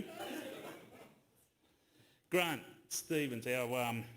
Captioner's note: laughter